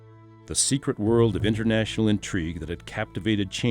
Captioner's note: voiceover